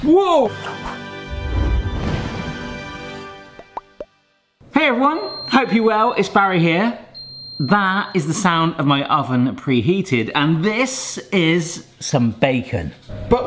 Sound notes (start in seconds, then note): 0.4 upbeat music; 3.5 logo popping